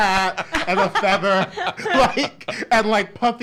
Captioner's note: laughs